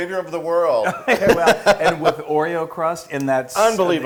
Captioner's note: laugh